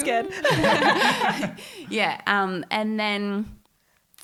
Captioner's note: all laughing